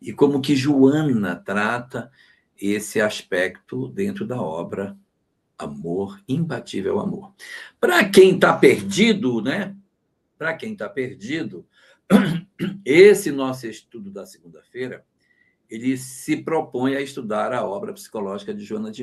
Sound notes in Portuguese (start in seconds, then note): 12.1 limpando a garganta; 12.1 tosse